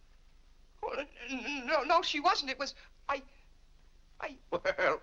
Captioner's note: stammering; laughs